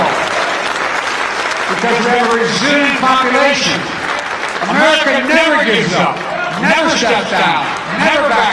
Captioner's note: applause